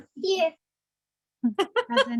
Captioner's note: laughter